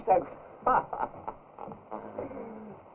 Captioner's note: laughs